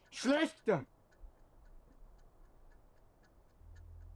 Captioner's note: speaking German